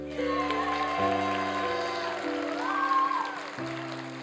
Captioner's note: applause